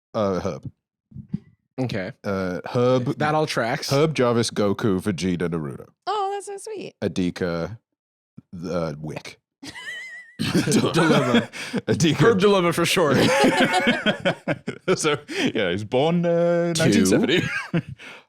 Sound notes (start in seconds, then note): 9.6 laughs